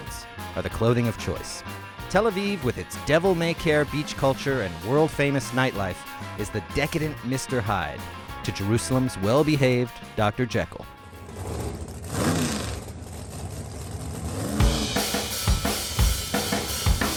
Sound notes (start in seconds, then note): 11.0 motorcycle roars; 11.7 rock playing